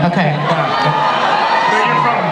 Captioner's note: audience cheering